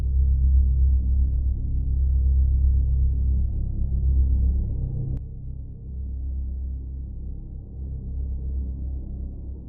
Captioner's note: wind